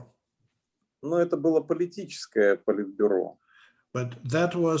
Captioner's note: speaking Russian language